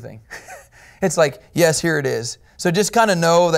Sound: chuckles

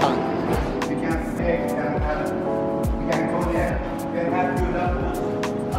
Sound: man speaking off mic

